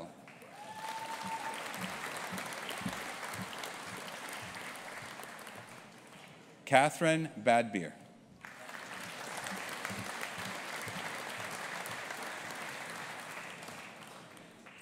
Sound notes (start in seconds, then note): 0.2 audience applauding; 8.4 audience applauding